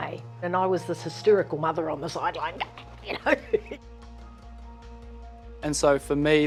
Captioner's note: chuckles